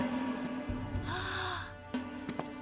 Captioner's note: gasps